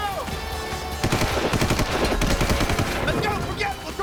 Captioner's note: gunshot